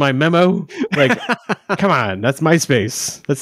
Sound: laughing

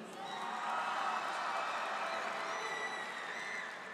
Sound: audience cheers

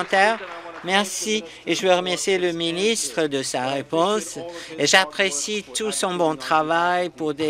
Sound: some Applause

